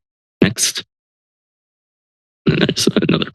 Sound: silence

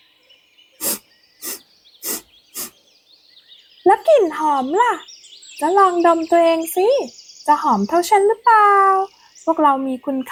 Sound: sniffs

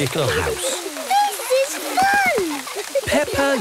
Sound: laughter

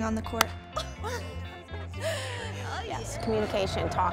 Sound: laughing

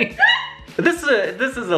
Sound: laughing

